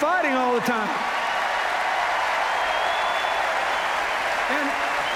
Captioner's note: cheers, applause